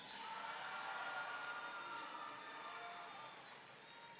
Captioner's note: audience cheering